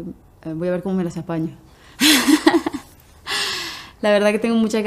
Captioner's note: laugh